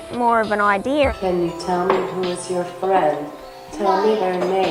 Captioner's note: iPad voice